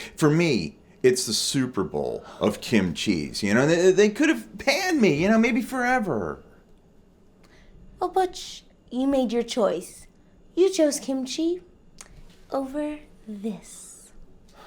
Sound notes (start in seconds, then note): none